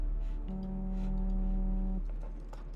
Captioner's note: phone vibrating